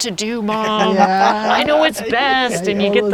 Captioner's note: all laughing